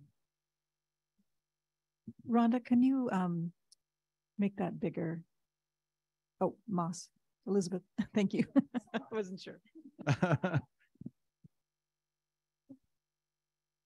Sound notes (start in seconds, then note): 8.4 chuckles; 10.0 giggles